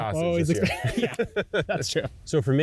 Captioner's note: laughs